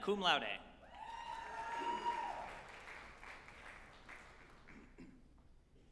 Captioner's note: group applauding and cheering